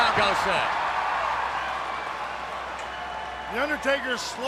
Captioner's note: audience cheers